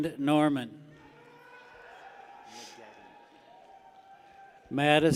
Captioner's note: people cheer